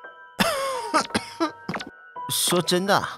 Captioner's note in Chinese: 咳咳